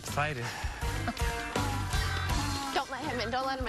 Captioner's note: donkey braying